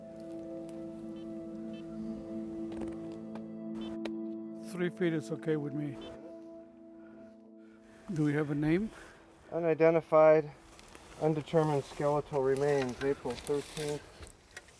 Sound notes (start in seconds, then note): 0.1 somber music; 6.3 GPS device beeping